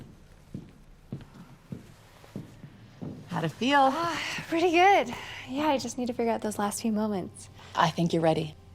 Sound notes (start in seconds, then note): 3.4 sighs